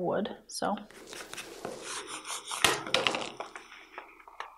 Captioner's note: rubbing